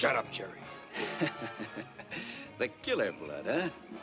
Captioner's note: Jerry laughs